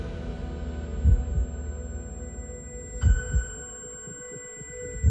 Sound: heart beating

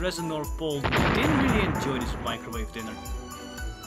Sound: explosion

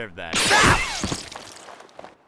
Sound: energy blast

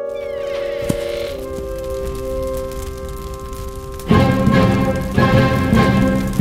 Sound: fire Crackling

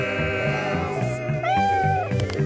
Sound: meowing; clapping

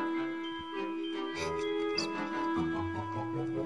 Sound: whispers

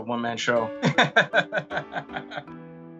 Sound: laughs

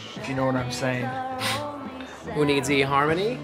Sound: sniffs

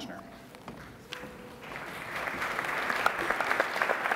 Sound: applauding

